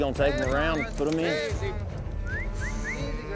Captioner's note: whistling